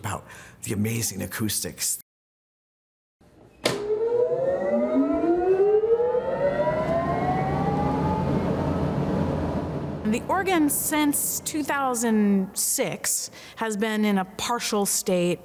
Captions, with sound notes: about the amazing acoustics. (machine whirs) - The organ since 2006 has been in a partial state